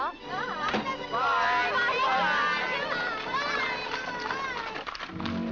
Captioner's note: family shouting goodbyes